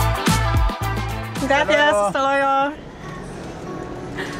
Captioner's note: in Spanish